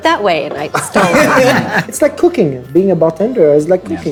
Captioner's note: group laughing